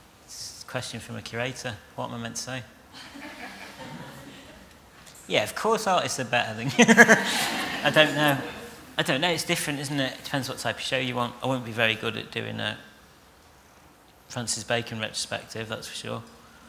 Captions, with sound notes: It's a question from a curator. What am I meant to say? (LAUGHTER) Yes, of course artists are better than you! (LAUGHTER) I don't know. It's different, isn't it? It depends what type of show you want. I wouldn't be very good at doing a Francis Bacon retrospective, that's for sure.